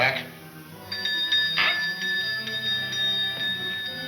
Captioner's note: bell dinging